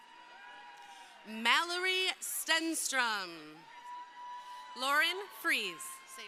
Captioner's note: crowd cheering